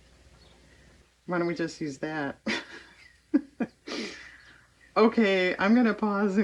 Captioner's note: laughs